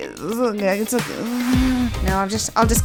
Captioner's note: awkward giggling